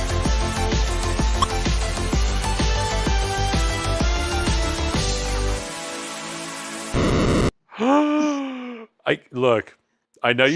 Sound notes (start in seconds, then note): 0.8 video game sounds; 7.8 gasping